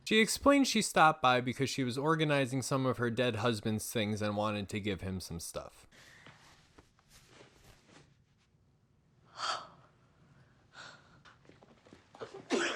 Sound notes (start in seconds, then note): 9.3 gasps; 12.5 Patchy Crying